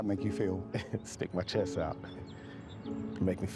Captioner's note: chuckles